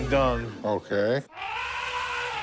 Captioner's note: elephant trumpeting